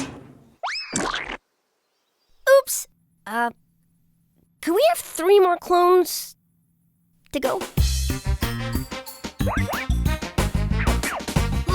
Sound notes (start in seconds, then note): 0.9 splat